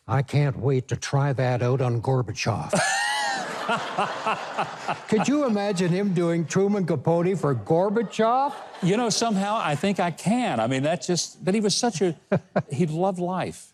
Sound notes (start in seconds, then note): 2.7 Mike and audience laughing; 7.1 audience laughing